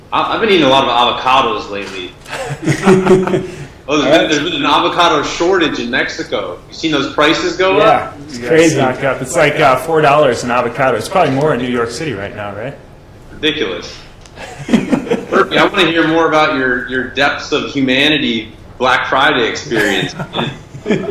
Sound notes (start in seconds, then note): 2.2 laughter